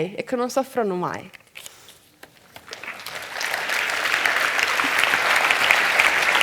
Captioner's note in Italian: Applausi